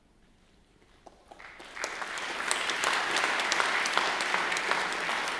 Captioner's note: crowd applauds